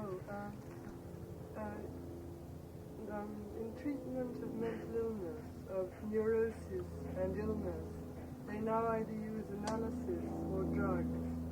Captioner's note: sound of aeroplane